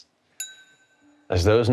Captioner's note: glass clinking